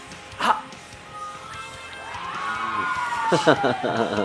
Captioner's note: screaming